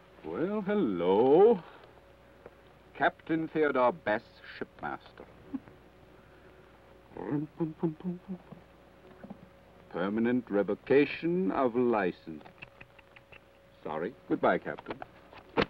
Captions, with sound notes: - Well, hello. "Captain Theodore Bess, Shipmaster." (hums melodically) "Permanent revocation of license." (tuts) Sorry. Goodbye, Captain.